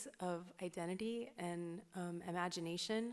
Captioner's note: none